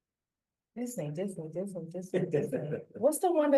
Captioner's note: laughter